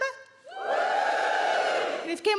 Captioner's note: crowd members cheer